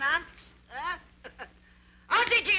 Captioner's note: chuckles